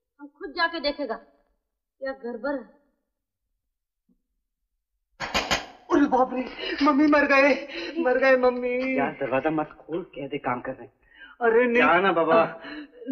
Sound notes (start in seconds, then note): 5.2 door knocks